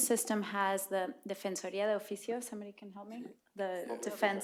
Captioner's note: speaking spanish